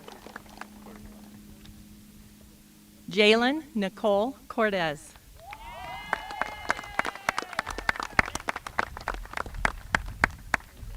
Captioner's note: applause